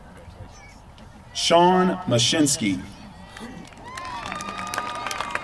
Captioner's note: applause